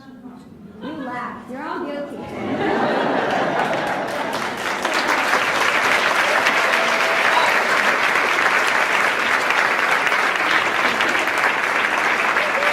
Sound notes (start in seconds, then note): 0.6 laughs slightly; 2.2 laughs; 2.2 laughs loudly. Cheers; 7.3 applauds